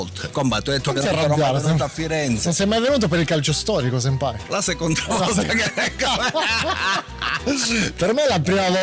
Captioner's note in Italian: risate